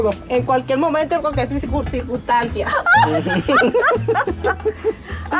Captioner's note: laughing